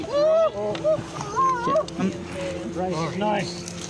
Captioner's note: yells